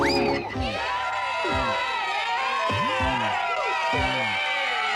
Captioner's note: cheering